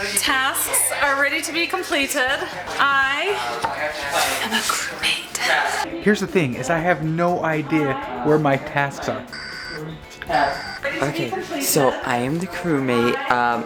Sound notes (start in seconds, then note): 10.4 alarm beeping